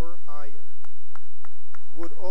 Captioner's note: cheering and applause